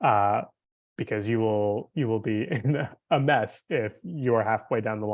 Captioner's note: chuckling